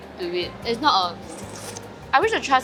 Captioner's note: slurpy slurps